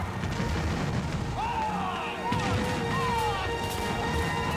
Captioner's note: shouting